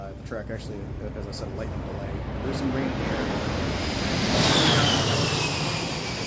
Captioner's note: Sound of A-10's flying over